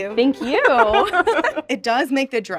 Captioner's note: laughing